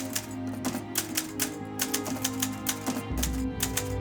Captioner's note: keys clacking